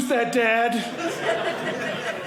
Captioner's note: audience laughing